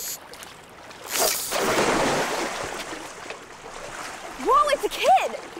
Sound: water splashing

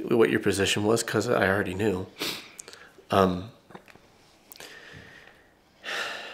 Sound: sniffs; sighs

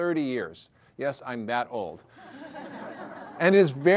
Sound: audience laughter

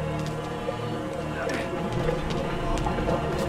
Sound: growling

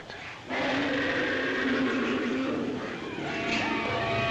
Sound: roaring

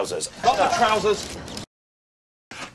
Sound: chatter

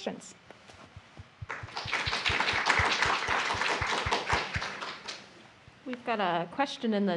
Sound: applause

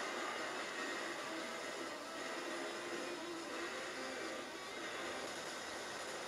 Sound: radio static and music

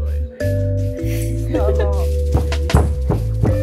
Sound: background chatter and chill music

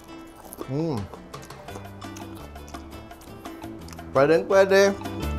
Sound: Munch; Crunch

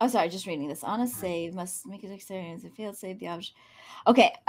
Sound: muttering

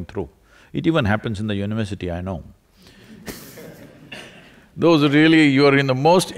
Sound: few laugh

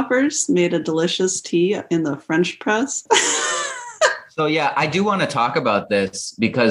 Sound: laughter

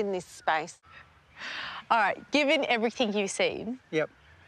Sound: inhales

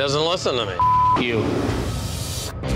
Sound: beeping

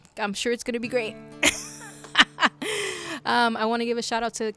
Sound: laughs

